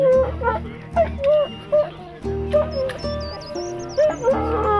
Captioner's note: people chattering; dog whining